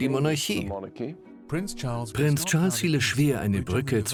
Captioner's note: voiceover